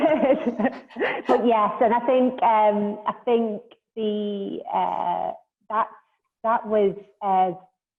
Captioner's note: laughter